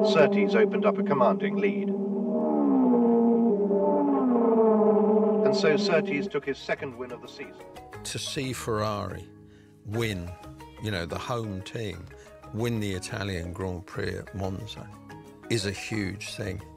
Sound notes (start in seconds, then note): 2.1 engine revving